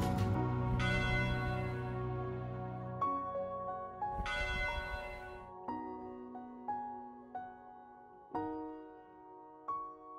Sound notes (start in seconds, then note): 0.0 gentle music; 0.7 bell rings; 5.9 gentle music